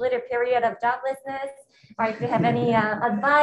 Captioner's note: attendees laughing